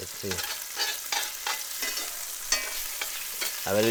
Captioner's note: spoon scraping